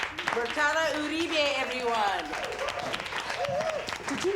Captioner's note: crowd cheering; crowd clapping